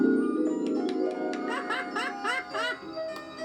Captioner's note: pingu laughing